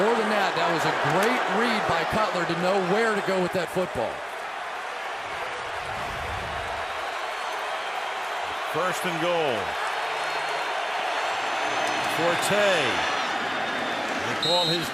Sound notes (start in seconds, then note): 5.0 crowd cheering